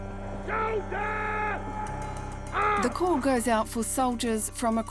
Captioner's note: shouting